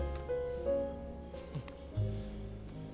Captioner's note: chuckles